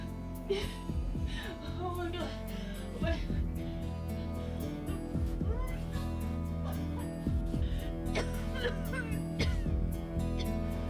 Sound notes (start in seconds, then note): 8.1 coughing